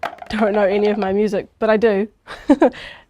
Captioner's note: chuckles